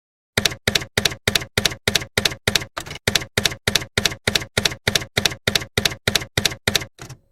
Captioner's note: typewriter keys clacking